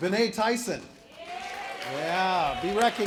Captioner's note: applause